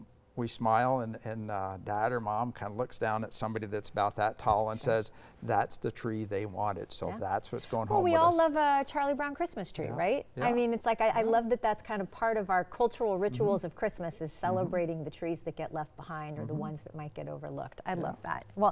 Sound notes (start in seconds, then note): none